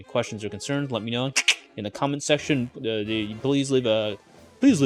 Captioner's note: clicking mouth